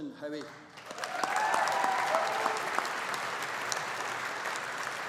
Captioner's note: audience applauding